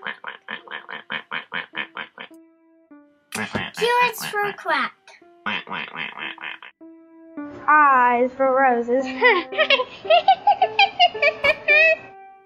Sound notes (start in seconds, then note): 5.4 quacking Noises; 9.2 Joker laughing